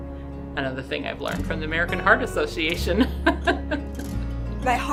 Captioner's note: laughs